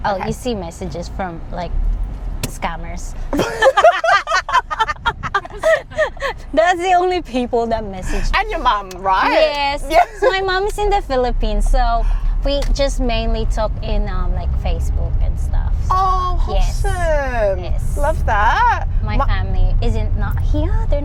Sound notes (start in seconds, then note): 3.3 laughs